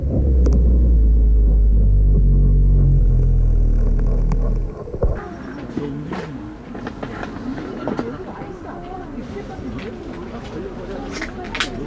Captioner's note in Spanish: Risas